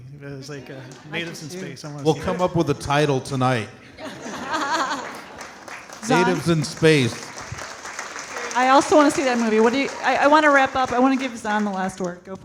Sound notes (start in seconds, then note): 4.4 audience laughing and clapping; 8.4 audience clapping